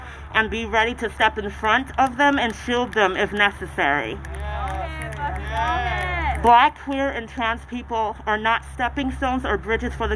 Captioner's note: applause